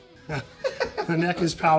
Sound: both laughing

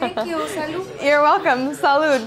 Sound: speaks in foreign language

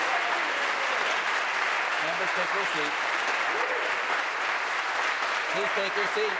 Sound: applause

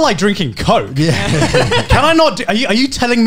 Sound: laugh

